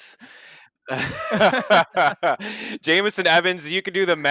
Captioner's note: everyone laughs